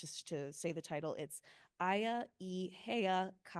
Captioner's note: speaking Hawaiian